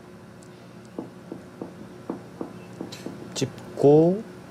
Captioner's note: tapping the table